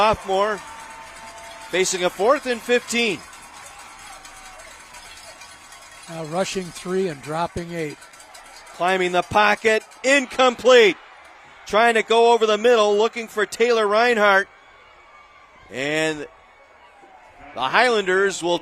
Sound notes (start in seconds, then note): 3.8 applause